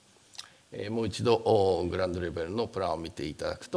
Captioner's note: speaking japanese